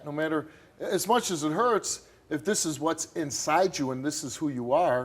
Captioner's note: none